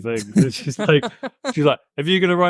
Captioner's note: laughs